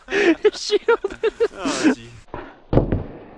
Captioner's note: dying laughing; can't stop laughing